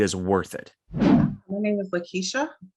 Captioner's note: transition swooshing